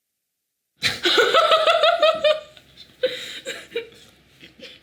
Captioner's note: both laughing